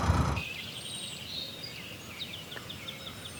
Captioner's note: birdsong